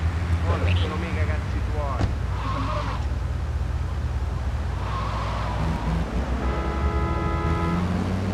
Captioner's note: speaking in foreign language; car horn honking